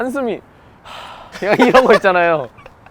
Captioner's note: sigh